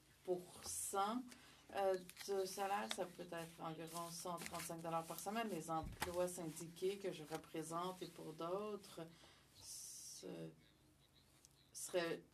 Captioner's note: speaking French